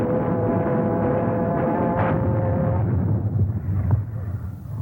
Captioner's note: artillery firing